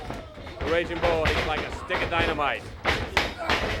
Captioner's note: crowd chatter